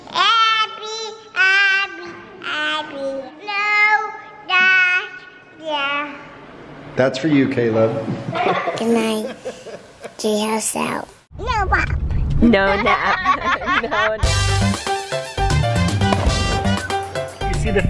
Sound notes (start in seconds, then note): 12.5 laughing; 14.2 upbeat Latin music